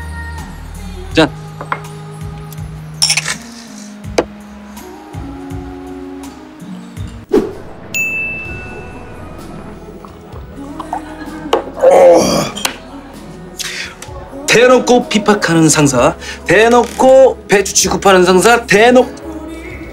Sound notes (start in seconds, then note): 3.0 clink; 12.5 clap